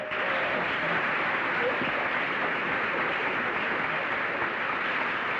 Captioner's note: applause